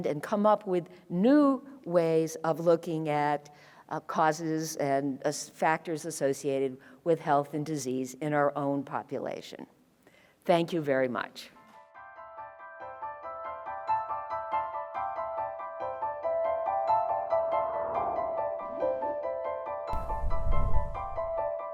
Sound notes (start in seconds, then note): 12.0 dramatic piano music; 17.8 light whooshing